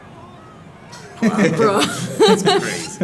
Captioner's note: laugh